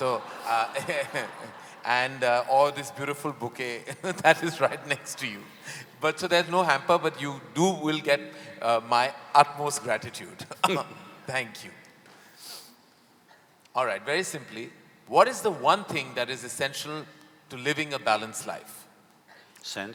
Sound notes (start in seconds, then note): 0.0 laughs; 9.9 both laugh